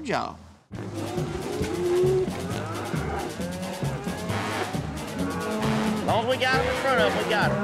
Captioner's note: mooing